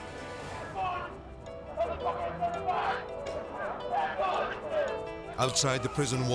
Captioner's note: warden speaking Portuguese